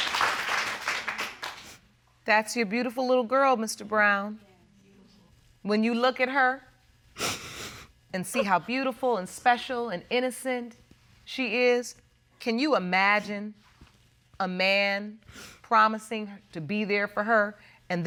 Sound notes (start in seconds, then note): 7.2 sniffles